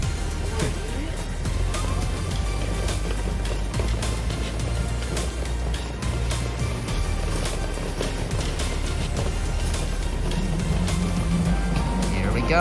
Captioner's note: walking